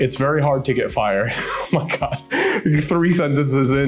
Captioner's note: laughing